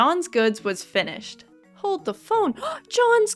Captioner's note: gasp